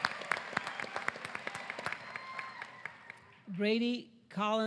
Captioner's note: applause